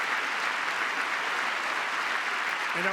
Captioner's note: applause; cheering